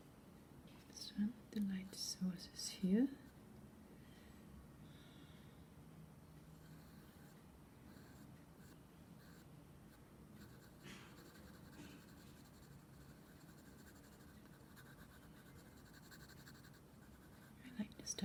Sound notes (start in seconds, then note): 5.0 pencil shading sounds continues